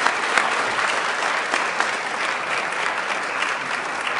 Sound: applause

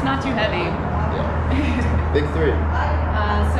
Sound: laughing

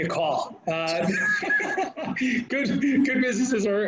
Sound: laughs

